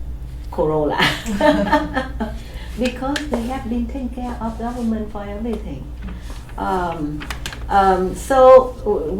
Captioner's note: laughs